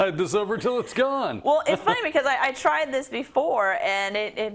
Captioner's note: laugh